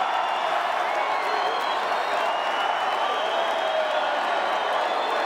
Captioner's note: crowd cheering